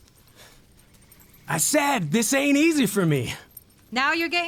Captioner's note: panting